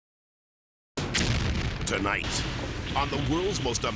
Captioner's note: explosion booms